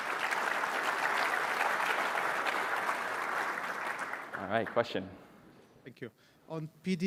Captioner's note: applause